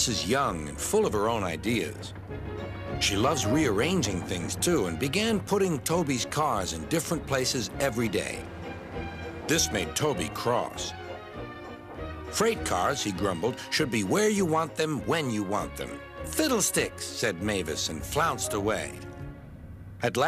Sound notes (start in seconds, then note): 11.6 dings bell